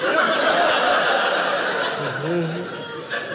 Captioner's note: audience laughing